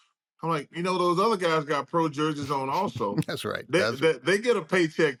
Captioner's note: chuckles